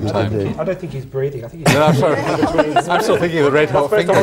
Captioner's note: laughter and indistinct chatter